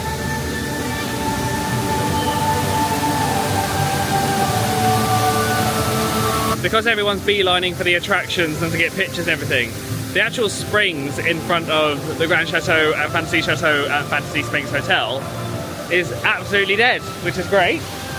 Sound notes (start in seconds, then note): 3.2 bright music continues; 3.2 water whooshing continues